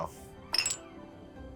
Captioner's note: glass slippers clinking